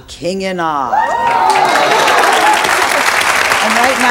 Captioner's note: audience cheers